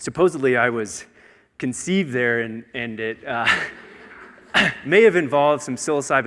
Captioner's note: audience laughing